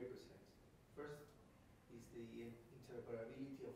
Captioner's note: male speaking off microphone